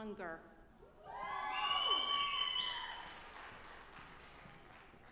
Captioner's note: audience applauding